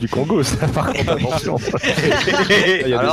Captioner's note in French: rires